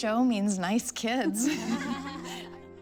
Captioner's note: laughter